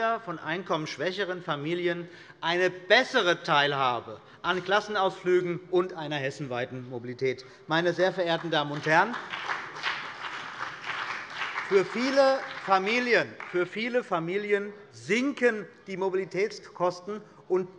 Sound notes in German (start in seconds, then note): 7.9 Beifall bei der CDU und dem BÜNDNIS 90/DIE GRÜNEN